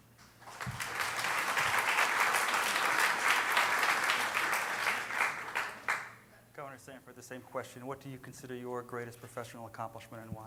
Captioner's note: applause